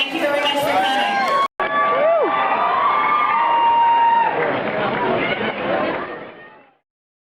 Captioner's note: cheers; cheers